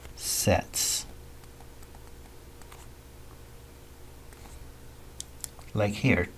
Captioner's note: writing Sounds